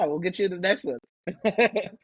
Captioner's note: laughter